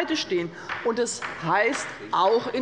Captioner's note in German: Beifall des Abg